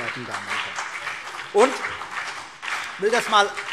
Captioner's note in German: Beifall BÜNDNIS 90/DIE GRÜNEN und vereinzelt CDU